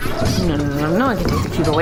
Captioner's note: beeping of heart rate monitor; hushed, quickly